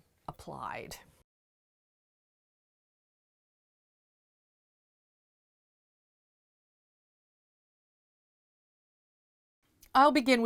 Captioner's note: no Sound Present